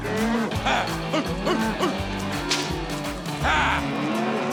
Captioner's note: cracking rope